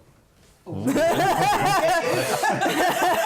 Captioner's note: laughter